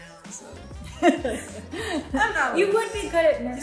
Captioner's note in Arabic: تضحك